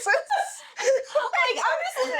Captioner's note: laughing